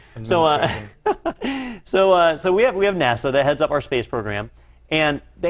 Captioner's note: laugh